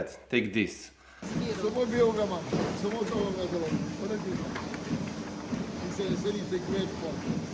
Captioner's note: machines humming; people taking